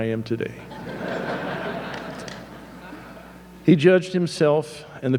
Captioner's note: audience laughing